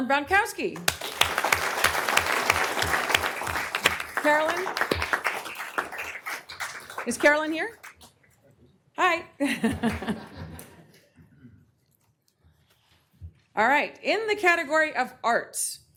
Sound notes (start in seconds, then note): 8.7 applause